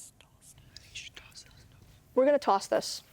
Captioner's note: whispering